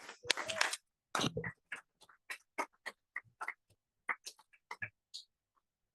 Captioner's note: attendees cheering and applauding